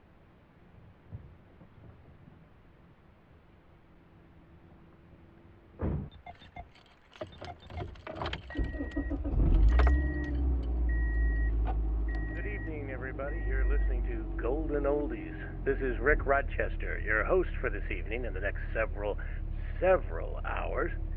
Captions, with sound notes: [DOOR SLAMS SHUT] [KEYS JINGLE, ENGINE STARTS] [RADIO] Good evening, everybody. [RADIO] You're listening to Golden Oldies. [RADIO] This is Rick Rodchester, [RADIO] your host for this evening and the next several, several hours.